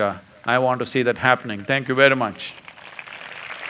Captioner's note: applause